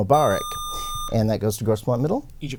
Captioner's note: buzzer